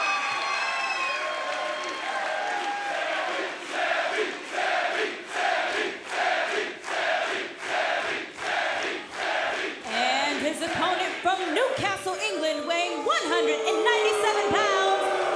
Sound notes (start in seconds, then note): 2.5 crowd chants "Sami"